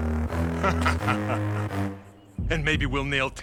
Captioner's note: Hammer laughing